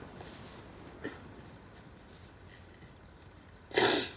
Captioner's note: sobs